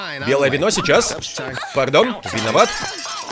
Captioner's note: clanging, clattering, people yelling; woman shrieks